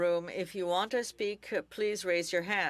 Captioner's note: speaking French